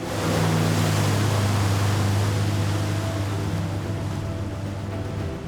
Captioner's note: boat engine revving; tense music